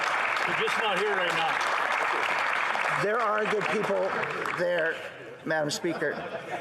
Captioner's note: some Applause